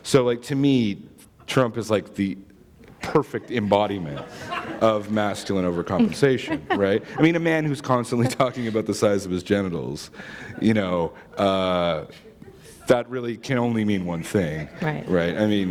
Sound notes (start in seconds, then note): 7.0 chuckle